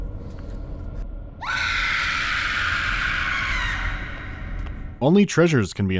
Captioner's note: loud, sharp cry of terror